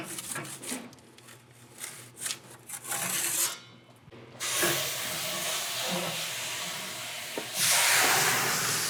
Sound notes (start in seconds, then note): 4.4 steam hissing